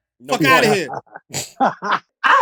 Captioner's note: laughter